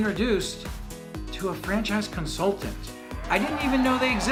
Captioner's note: crowd cheers